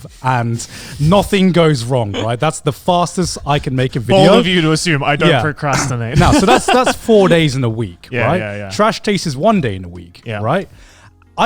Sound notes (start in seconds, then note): 4.0 laughs